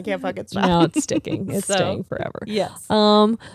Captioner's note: laughing